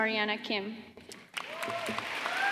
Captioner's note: applause